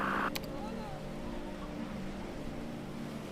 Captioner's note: quiet indistinct chatter